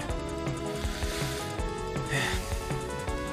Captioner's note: breathing